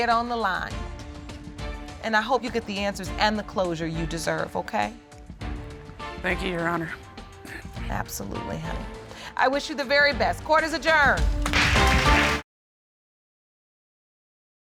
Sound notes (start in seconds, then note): 11.5 audience applauds